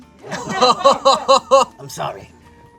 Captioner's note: laughs